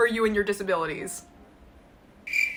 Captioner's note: silence